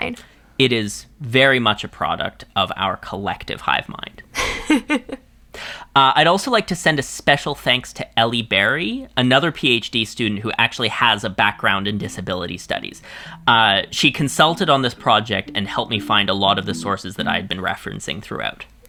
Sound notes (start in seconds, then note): 4.0 laughs